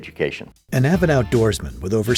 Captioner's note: voiceover